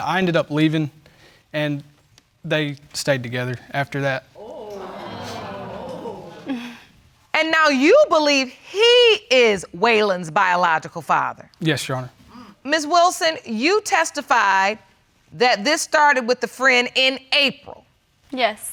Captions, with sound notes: and I ended up leaving and they stayed together after that. (AUDIENCE EXCLAIMING) (LAUGHS SMUGLY) And now you believe he is Waylon's biological father. Yes, Your Honor. Ms. Wilson, you testified that this started with the friend in April?